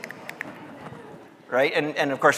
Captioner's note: audience laughing